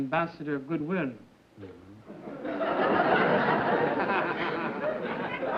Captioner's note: laughter